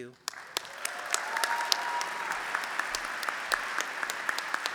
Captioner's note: applause